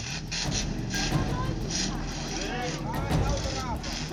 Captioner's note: engine revving